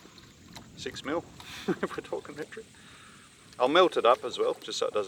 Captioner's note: chuckles